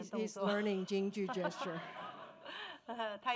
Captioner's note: speaking Mandarin